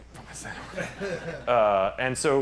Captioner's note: laughter